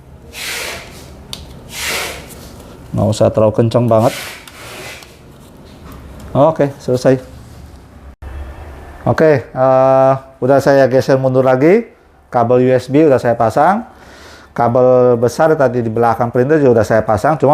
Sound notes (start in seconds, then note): 0.1 L-shaped key noise; 0.1 bolts noise; 2.7 L-shaped key noise